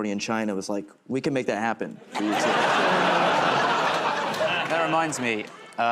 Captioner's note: laughter